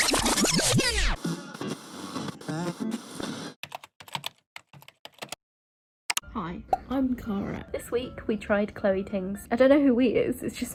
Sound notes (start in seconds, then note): 0.1 tape screeching; 2.2 radio static tuning; 4.6 keyboard clacking